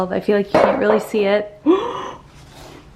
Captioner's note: gasps